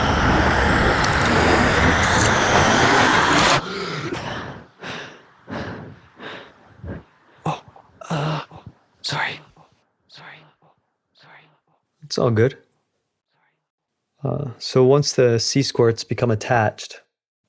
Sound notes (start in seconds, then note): 0.0 noise & screaming intensifies; 3.6 gasping